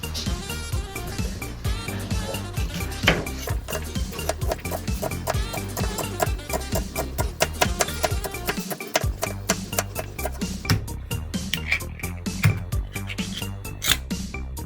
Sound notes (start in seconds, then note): 10.8 canning sound